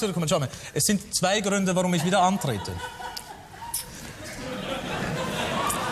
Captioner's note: camerawoman laughs